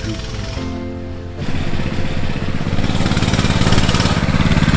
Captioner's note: motorcycle running